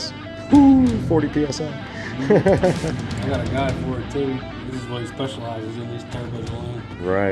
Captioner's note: laughter